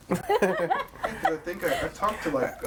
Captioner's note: all laughing